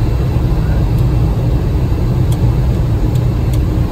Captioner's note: engine humming